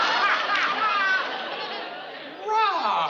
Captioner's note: laughing